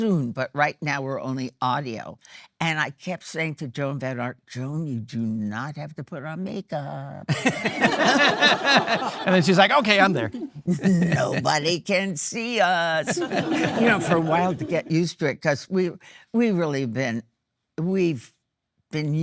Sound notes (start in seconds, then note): 7.3 laughing; 7.4 audience laughing